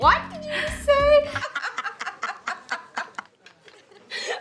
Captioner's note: laughter